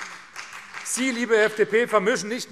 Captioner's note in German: Vereinzelter Beifall CDU und BÜNDNIS 90/DIE GRÜNEN